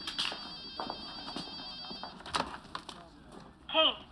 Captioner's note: phone rings